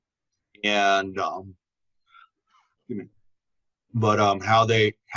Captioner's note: coughs